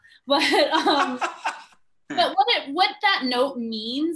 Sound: laughs

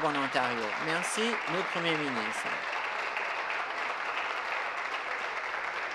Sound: applause

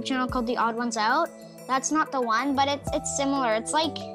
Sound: none

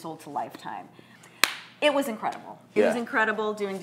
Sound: clapping

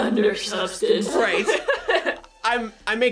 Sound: laughing

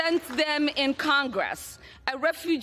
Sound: applause

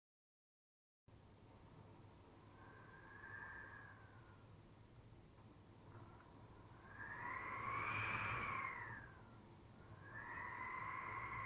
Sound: sound of wind

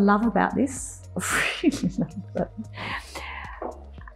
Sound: laughs

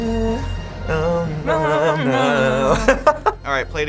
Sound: humming song; both hum along; laughter

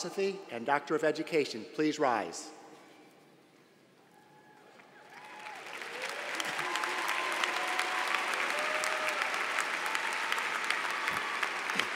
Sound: applause

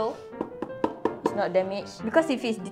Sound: more knocks

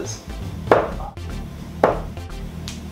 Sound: dart hitting board

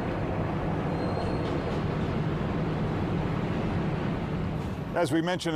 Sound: traffic whirring

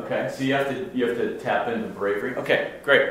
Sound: voiceover

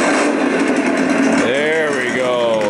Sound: engine starting; engine rumbling

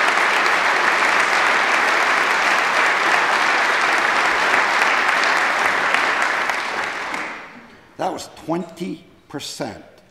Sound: applause

